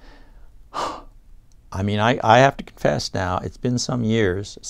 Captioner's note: exhales